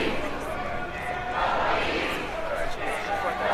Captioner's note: crowd chanting